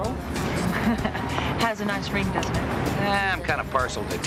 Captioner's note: chuckling